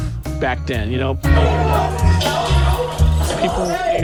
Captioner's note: crew members clamoring